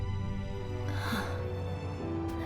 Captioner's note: soft gasp